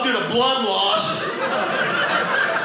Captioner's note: audience laughing